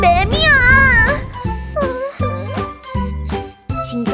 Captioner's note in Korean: 계속 소리내 우는